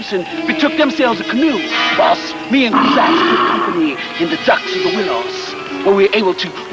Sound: Cruzatte growling

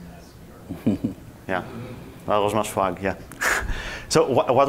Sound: laughs

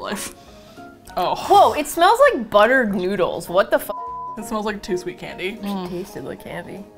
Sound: disgusted; quietly

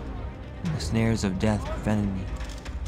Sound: man shouting

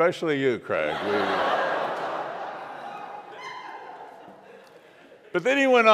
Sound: congregation laughs

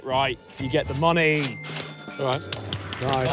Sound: cash register dings

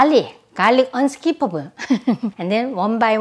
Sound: laughs

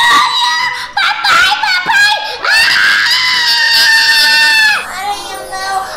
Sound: scream

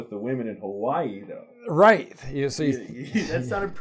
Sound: chuckles

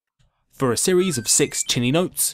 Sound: 1up noise

